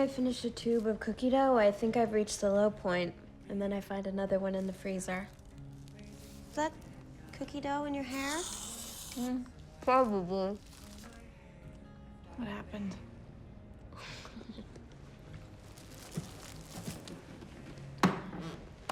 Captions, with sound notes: EVERY TIME I FINISH A TUBE OF COOKIE DOUGH, I THINK I'VE REACHED THE LOW POINT... AND THEN I FIND ANOTHER ONE IN THE FREEZER. IS THAT COOKIE DOUGH IN YOUR HAIR? [CREAM-MUFFLED]: MM. PROBABLY. WHAT HAPPENED?